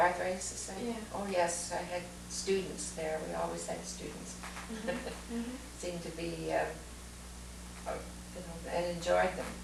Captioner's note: laughs